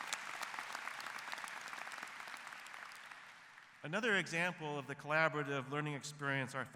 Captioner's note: applause